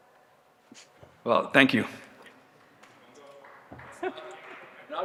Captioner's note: laughs